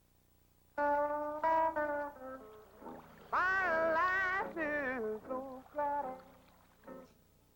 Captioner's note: blues music; water rippling